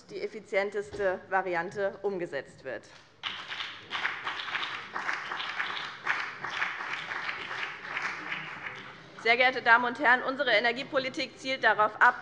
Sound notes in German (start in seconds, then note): 3.2 Beifall BÜNDNIS 90/DIE GRÜNEN